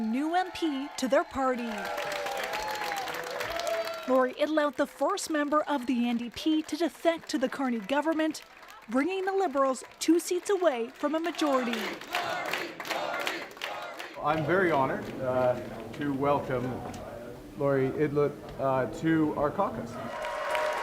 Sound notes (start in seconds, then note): 0.0 cheers and Applause; 3.4 applause